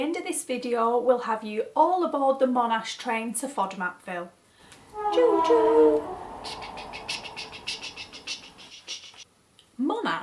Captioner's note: choo choo train sounds